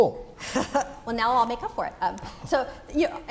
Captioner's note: laugh